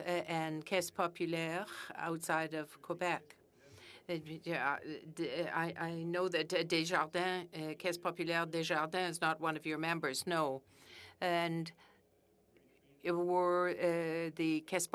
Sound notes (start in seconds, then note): 13.3 speaking French